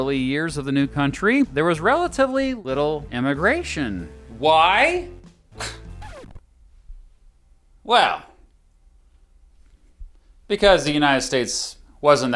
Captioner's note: scoffs